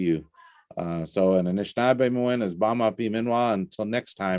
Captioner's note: native language spoken